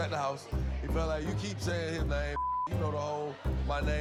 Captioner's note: beep